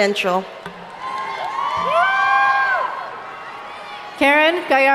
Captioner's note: audience cheering